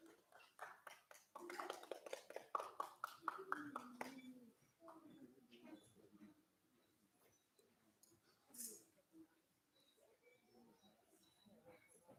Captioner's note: applause